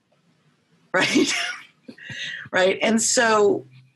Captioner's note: laughing